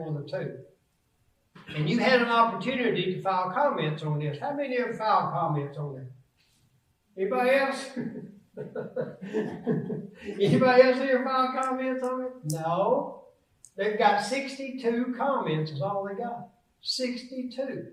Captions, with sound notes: One of the two. And you had an opportunity to file comments on this. How many ever filed comments on there? Anybody else? (laughs) (audience laughs) Anybody else here file comments on it? No? They've got 62 comments is all they got. 62.